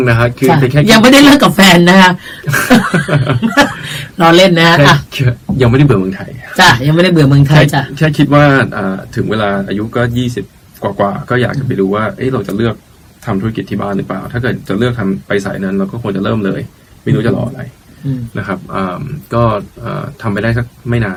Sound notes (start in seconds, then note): 2.4 both laughing